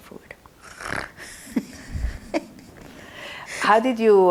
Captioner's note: laughing